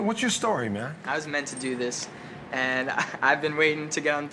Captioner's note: laughs